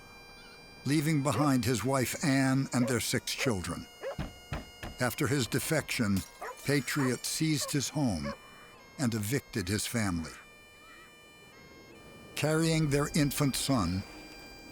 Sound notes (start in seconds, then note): 4.8 knock on door